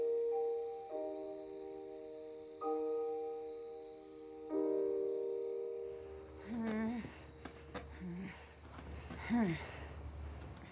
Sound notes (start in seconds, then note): 6.4 vivien groaning